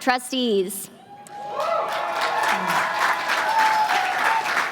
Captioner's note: applause